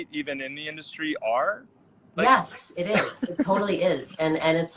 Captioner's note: laughs